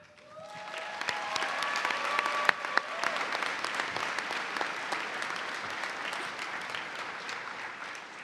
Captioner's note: cheers and applause